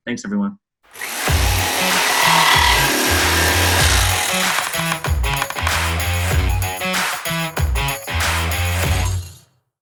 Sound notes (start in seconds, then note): 0.9 saw buzzing; 1.0 upbeat music